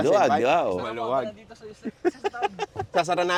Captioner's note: laughs